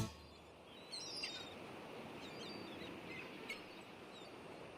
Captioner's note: sea birds calling